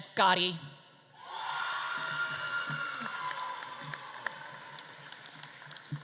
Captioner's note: audience claps and cheers